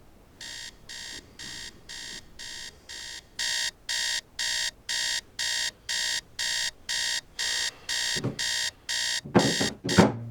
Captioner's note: alarm clock ringing